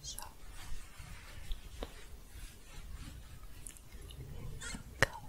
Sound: shuffling

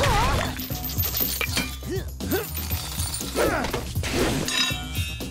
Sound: grunting

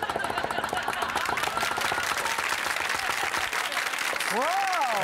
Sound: applause; laughing

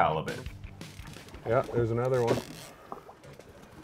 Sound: reel cranking

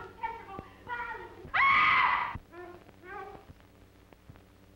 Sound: screams

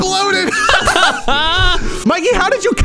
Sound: all laughing

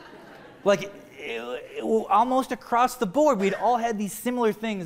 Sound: laughter

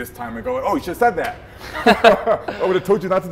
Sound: chuckling

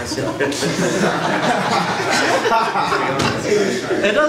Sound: audience laughs

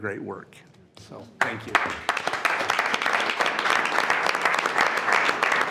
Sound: attendees applauding

